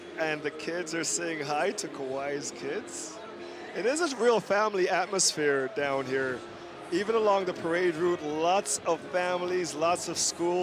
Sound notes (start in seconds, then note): none